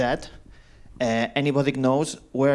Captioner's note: none